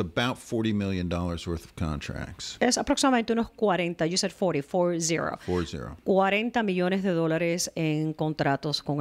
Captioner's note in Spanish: Hablando ingl\s